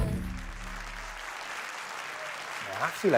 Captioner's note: applause